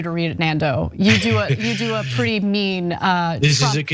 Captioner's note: laugh